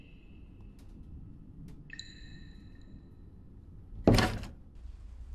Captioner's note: water drips; door clicks